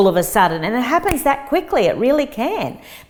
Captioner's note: fingers click